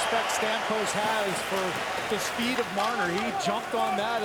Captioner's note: cheering and APPLAUSE